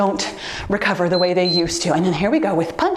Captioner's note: timer beeps